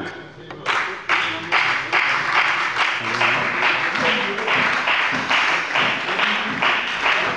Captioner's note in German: Beifall bei der FDP, der SPD und der LINKEN